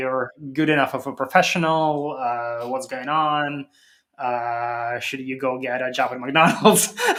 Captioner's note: laughs